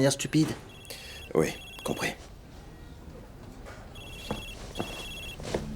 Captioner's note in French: Le téléphone sonne